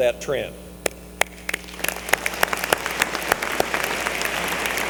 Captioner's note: applause